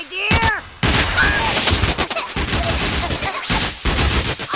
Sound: screaming, cracking

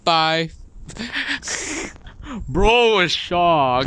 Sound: laughs

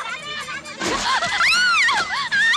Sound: screams

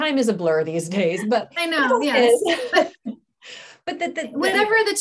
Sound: laughter

